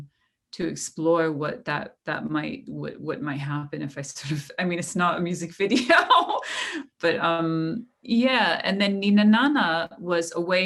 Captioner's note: laughter